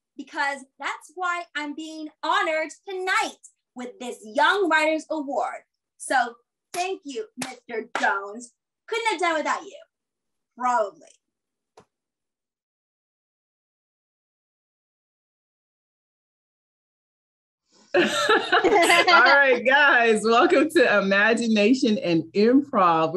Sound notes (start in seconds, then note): 17.9 group laughing